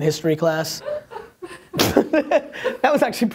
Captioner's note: laughter